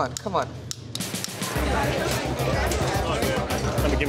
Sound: loud chatter

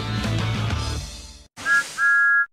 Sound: thomas whistles

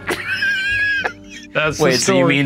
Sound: laughing

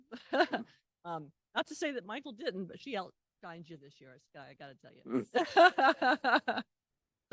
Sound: laughter; laughter

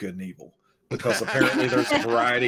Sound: all laugh

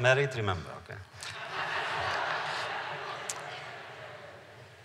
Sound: laughter

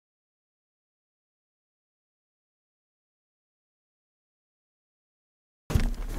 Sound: silence

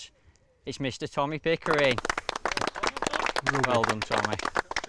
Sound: clapping

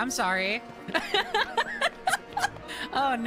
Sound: laughter

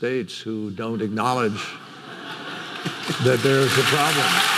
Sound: audience laughing

